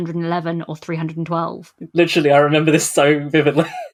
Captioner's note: laughing